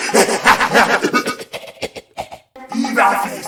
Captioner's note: cough